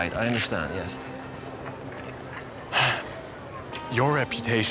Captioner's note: sighs